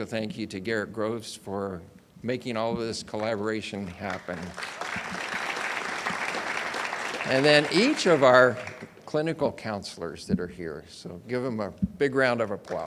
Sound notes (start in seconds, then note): 6.4 audience applauds